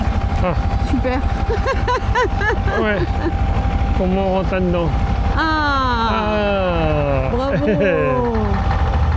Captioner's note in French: rires